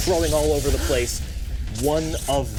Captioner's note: electricity zapping